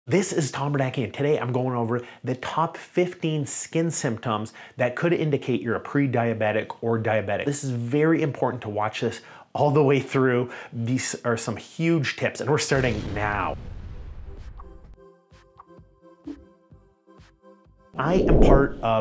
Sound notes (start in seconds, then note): 12.8 fire whooshing